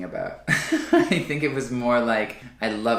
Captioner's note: laughs